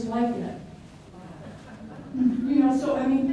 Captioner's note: light laughter from audience